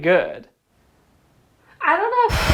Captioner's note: silence